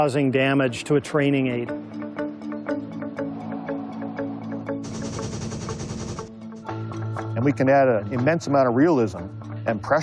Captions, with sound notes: damage to a training aid. [atmospheric music plays] [machine gun firing] And we can add an immense amount of realism and pressure